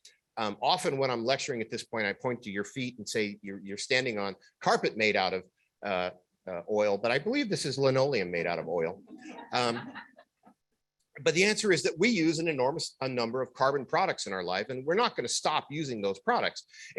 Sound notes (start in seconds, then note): 9.1 laughter